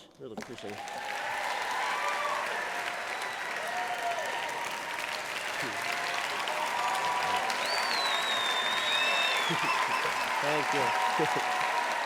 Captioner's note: applause